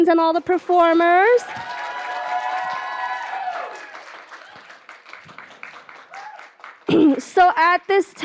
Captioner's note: applause and cheering